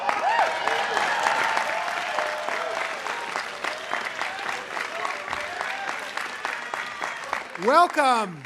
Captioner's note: cheering and applause